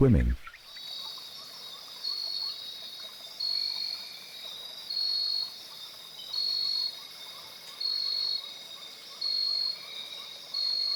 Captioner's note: birds chirping